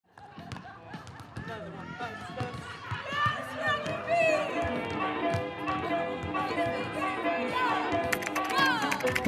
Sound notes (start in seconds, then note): 0.6 laughter; 1.5 singing